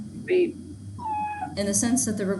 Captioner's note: dog whimpering